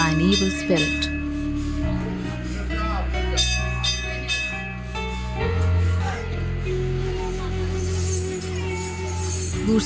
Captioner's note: enigmatic music; bell jingles